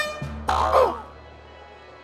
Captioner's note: air horn sounds; groans